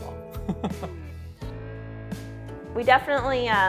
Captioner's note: chuckles